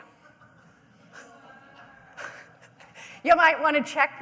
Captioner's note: audience laughing